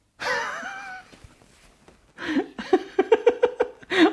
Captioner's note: laughs